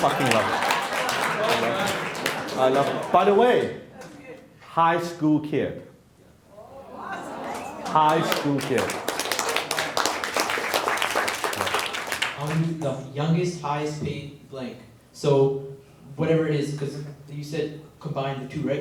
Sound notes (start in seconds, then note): 0.0 laughing; 7.4 applauding